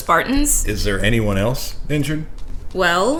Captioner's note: Sarcastic